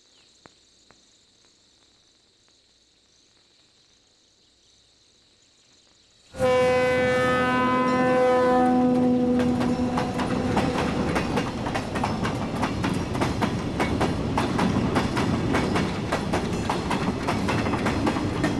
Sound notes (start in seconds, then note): 6.3 train horn; 9.0 clanking